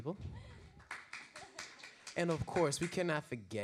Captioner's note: audience applause